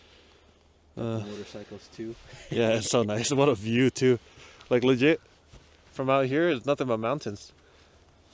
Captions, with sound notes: "Motorcycles too?" *chuckles* "Yeah, it's so nice, what a view too" "Like, legit?" "From out here, it's nothing but mountains"